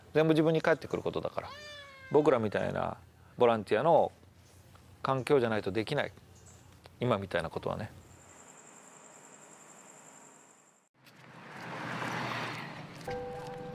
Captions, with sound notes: It all comes back to you. Being a volunteer gives us both freedom and responsibility. [birds chirping]